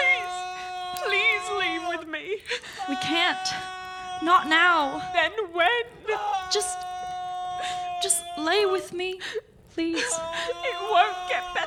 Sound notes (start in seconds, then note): 2.8 crying too